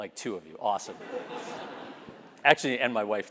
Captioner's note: laugh